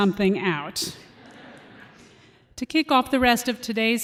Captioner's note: laughter